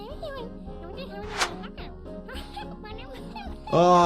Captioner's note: Petunia babbles